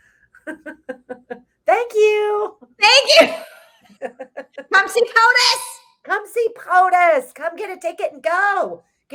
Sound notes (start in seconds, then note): 0.4 laughs; 3.0 both laughs